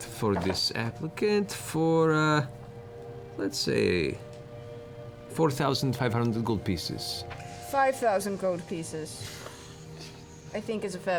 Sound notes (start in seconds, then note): none